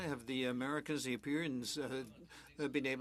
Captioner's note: speaking French